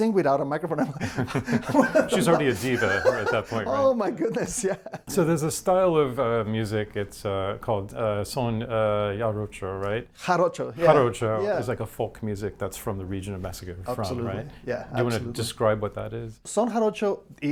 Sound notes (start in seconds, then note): 0.8 both laughing; 6.9 chuckles